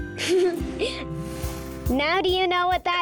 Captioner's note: giggling